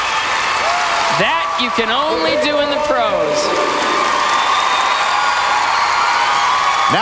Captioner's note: crowd Cheering